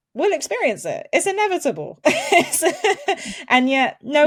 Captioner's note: chuckles